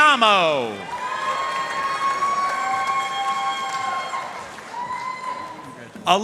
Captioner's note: audience cheering and applauding